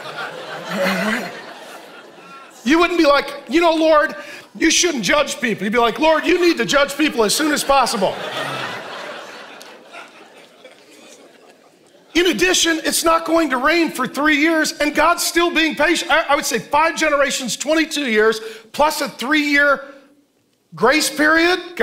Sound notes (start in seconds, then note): 0.0 congregation laughing; 7.1 congregation laughing